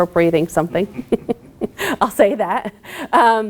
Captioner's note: laughing